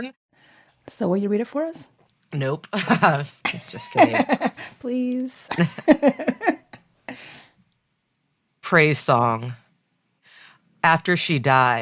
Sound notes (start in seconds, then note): 3.4 they laugh